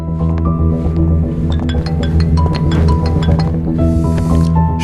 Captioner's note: mobile rings